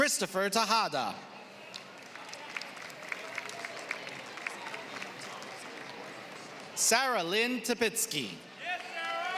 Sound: applause; applause

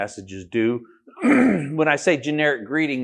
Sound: coughing

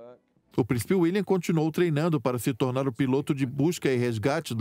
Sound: voiceover

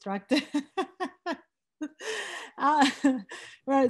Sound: laughs

